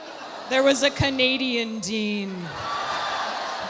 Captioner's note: audience laughs; audience applauding; audience gasps